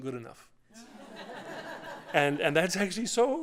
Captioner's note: laughter